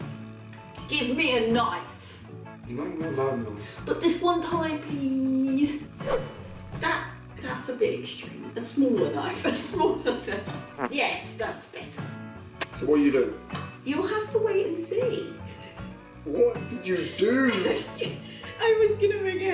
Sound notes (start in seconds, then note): 6.0 wooshing knife sound; 10.6 fart sound